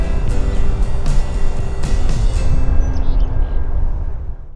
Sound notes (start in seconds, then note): 0.0 birds chirping